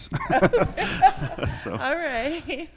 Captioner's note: laughter